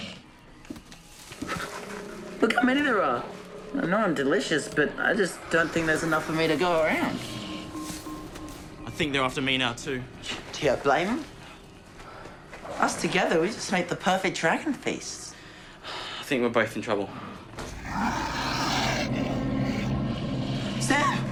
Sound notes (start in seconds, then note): 1.4 Komodos growl; 17.5 growling; 17.6 sighs